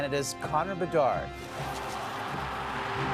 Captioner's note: cheering